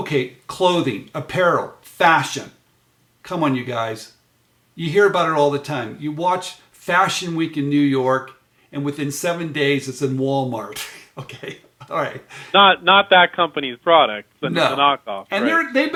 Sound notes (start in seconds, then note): 10.7 laughs